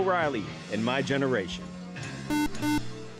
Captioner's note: beep